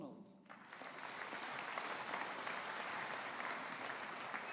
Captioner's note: audience applauding